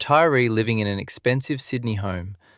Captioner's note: thoughtful